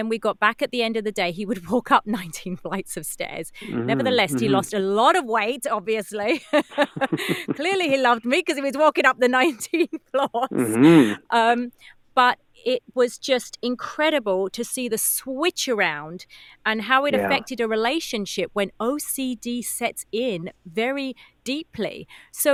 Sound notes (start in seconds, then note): 6.3 laugh